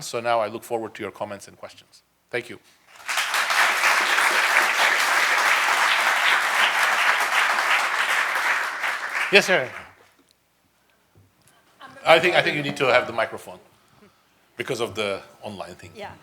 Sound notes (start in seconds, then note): 2.9 audience applauding